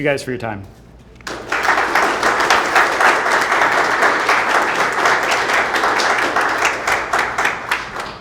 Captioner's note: applause